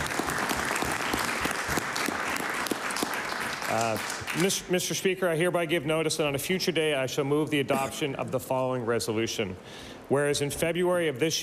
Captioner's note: applause